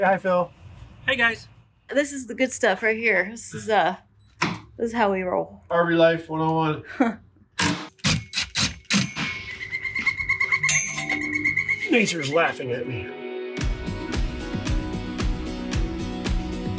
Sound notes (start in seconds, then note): 7.8 drill whirring; 11.1 bird calling; 13.9 upbeat music